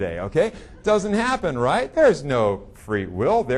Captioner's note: audience laughing